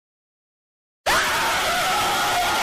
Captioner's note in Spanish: gritos